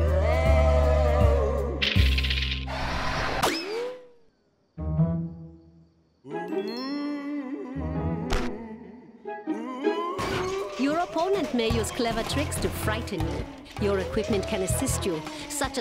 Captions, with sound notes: (ghostly moaning) (ghostly moaning) YOUR OPPONENT MAY USE CLEVER TRICKS TO FRIGHTEN YOU. YOUR EQUIPMENT CAN ASSIST YOU,